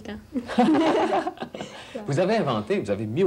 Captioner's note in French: rires